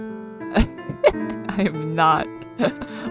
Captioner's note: laughs